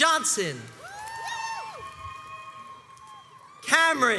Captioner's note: crowds cheers and applauds